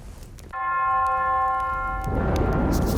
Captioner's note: bell ringing